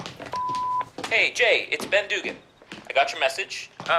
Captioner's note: television plays